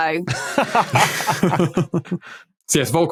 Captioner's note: laugh